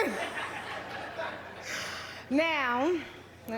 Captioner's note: laughter